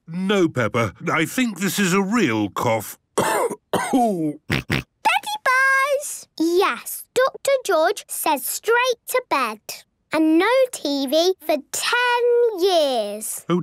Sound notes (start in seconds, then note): 3.1 cough; 4.5 snort